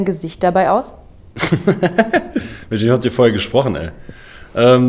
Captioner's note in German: lacht